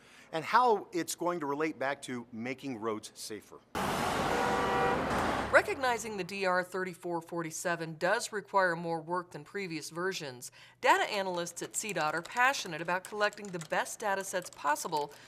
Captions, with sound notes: and how it's going to relate back to making roads safer. [sounds of vehicles driving on road and car horns] Recognizing the DR 3447 does require more work than previous versions. [sounds of computer keyboard typing] Data analysts at CDOT are passionate about collecting the best data sets possible